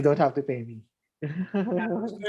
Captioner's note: laughs